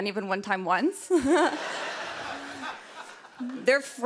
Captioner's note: laughter